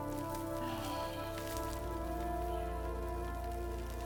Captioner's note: Bruce exhales